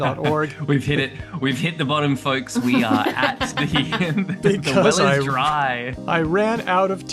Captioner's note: laughs